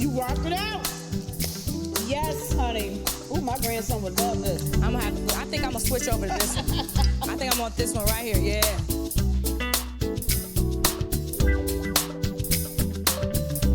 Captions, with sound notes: You rock it out. (hands clap) Yes, honey. Ooh, my grandson would love this. - I'ma have to... I think I'ma switch over to this one. (Vernee laughs) I think I want this one right here, yeah. (lighthearted music continues)